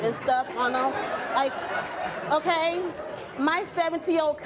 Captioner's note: audience laughing